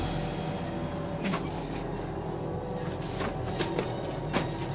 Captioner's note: Toby gasps; eerie music; feet pattering